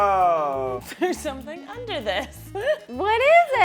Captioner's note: laughs